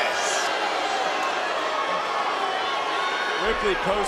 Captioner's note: crowd boos